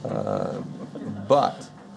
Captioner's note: audience laughing